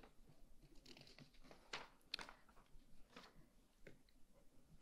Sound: pages rustling

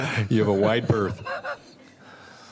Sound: laughter

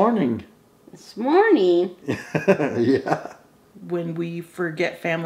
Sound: laughs

